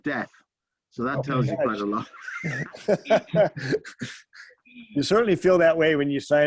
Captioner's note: laughter